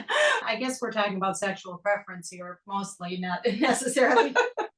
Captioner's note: laugh